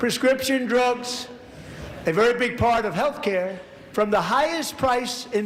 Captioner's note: laughter